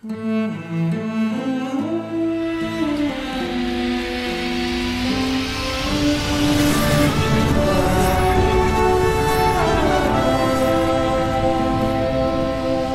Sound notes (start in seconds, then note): 3.5 Time Machine Whirrs